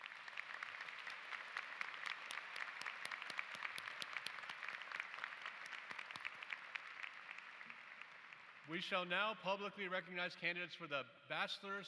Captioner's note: applause